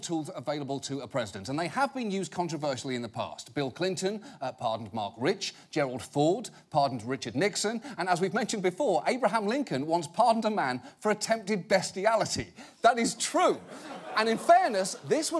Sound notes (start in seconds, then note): 13.1 audience laughing